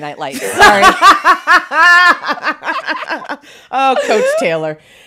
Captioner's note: both laughing